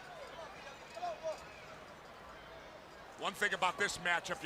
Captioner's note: crowd chatter